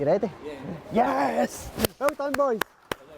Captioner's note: clapping